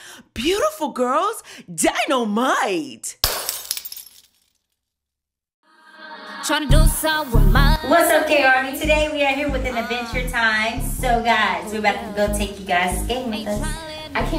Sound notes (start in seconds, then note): 3.2 glass shattering